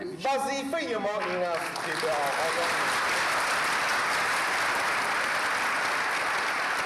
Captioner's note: applause